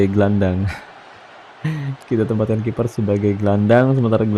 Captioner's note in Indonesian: tertawa